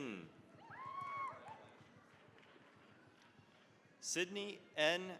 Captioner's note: cheering, applause